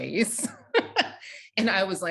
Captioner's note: laughing